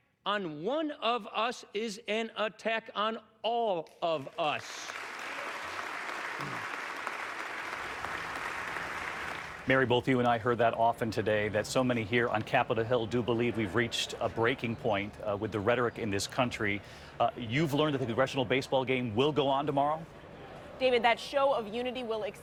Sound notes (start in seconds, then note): 4.1 applause